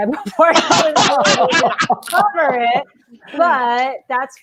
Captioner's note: laughing